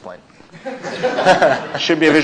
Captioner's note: laughter